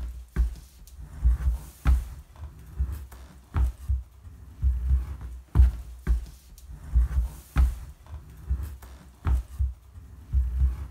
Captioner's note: steps and dragging noise